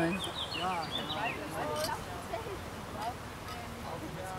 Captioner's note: birds chirping, distant conversation